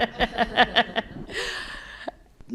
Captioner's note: laughter